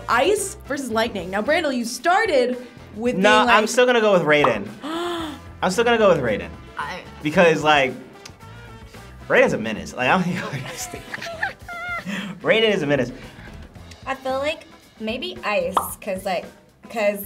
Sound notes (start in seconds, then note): 4.8 React gasps; 10.3 laughs